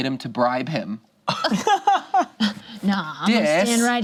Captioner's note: group laughs